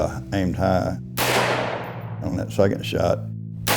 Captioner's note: M16 rifle BLAST #1